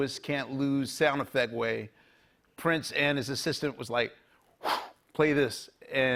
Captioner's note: whooshes